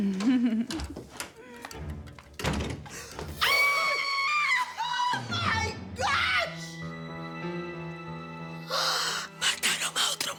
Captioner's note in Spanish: Ruido en la puerta; Susurra